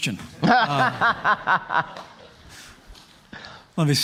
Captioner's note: laughing